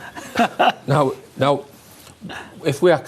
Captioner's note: laughing